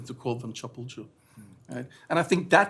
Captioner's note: non-english